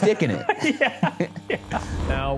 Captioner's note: laughs; dramatic music